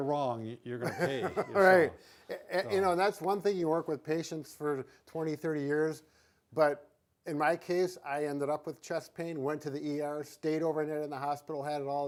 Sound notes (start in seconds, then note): 0.8 laughs